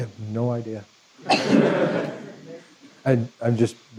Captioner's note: laughter